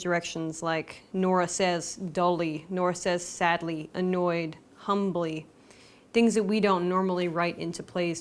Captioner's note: Nora says doley, Nora says sadly, annoyed, humbly